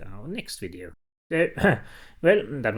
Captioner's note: clears throat